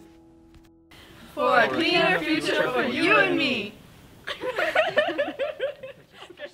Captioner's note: laughter